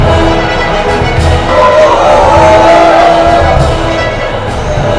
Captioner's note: Crowd cheering